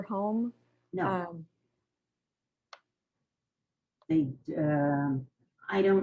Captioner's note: pauses for 3 seconds